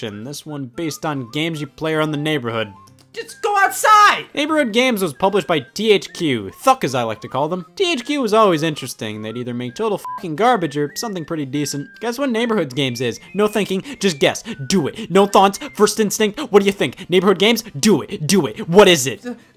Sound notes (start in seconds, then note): 10.0 beep